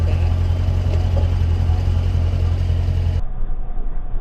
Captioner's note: engine running